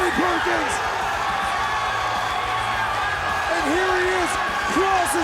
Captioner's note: crowd cheering